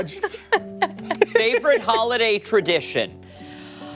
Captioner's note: laughter